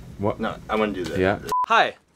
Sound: beeping Sound

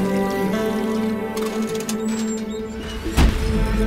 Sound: car Sound

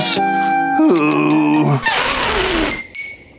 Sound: groaning

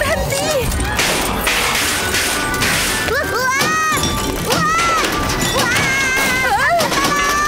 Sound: metallic crashing; yells

